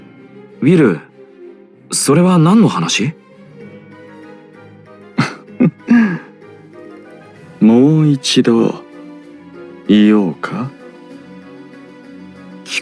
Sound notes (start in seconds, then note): 5.1 laugh